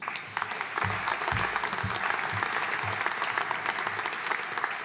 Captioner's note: audience applauding